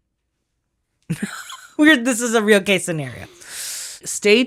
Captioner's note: laughs